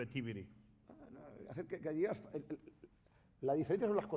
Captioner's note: speaking spanish